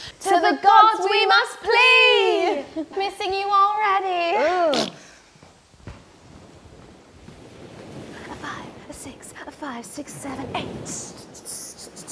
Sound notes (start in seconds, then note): 8.2 waves crashing